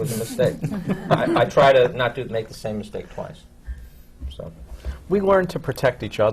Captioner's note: laughter from the panel